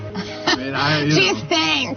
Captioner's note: laughs